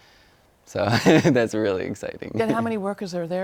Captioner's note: laughs